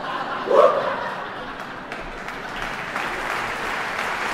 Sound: audience laughing; audience applauding

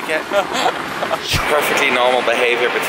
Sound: laughs

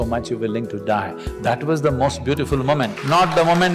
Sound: applause; 掌聲

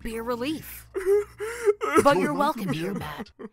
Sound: sobbing

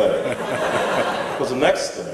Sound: laughs

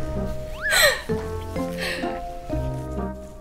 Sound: slurping

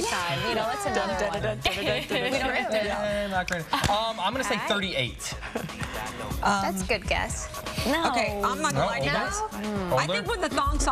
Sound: laughter

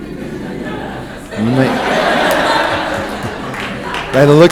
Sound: audience laughs

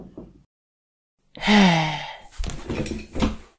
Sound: sigh

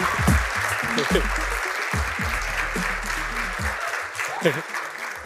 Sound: laughs

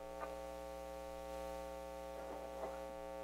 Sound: electrical hum

